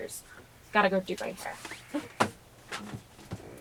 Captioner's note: scoffs